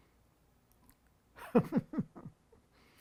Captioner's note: laughing